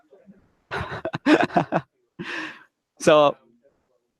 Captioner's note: laughs loudly